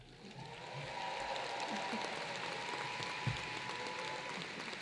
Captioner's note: applause